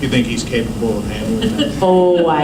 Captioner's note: laughter